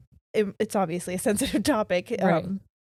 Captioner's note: chuckles